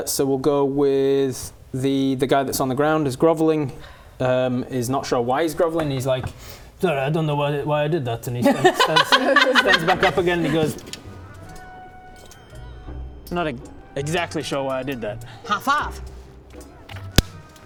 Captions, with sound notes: So we'll go with the guy that's on the ground is groveling is not sure why he's groveling He's like Sorry I don't know why I did that And he stands *laughing* Stands back up again and he goes Not exactly sure why I did that High five *clap*